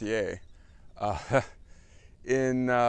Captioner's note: laugh